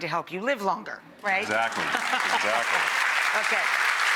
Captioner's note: audience applauds